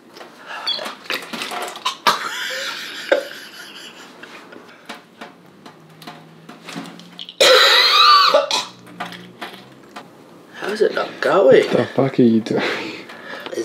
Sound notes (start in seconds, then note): 0.1 laughter; 7.1 the sounds of gross city